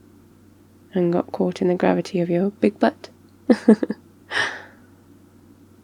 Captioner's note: laughs